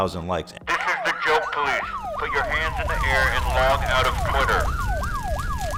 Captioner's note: using Megaphone